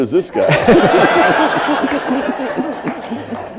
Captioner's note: laughter